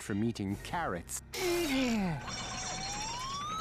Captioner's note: grunting